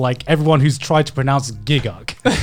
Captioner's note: laughing